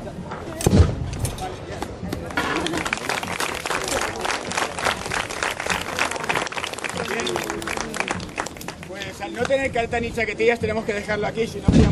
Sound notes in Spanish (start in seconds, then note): 0.0 chocan las espadas; 2.2 aplausos